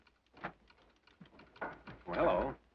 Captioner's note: telegraph clicks